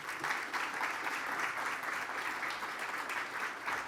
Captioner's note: applause